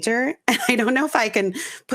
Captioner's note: laughing